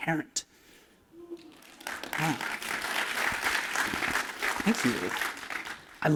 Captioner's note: applause